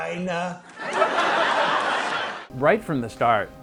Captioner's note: audience laughing